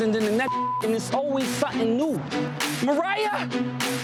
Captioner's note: beep